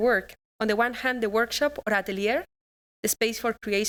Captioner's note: non-english speech